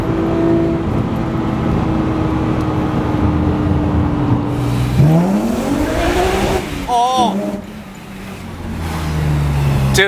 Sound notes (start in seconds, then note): 5.5 engine revving